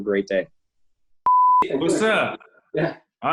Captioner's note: beep